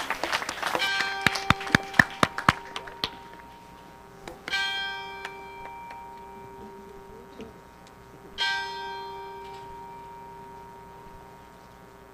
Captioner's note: applause; bell rings 3 times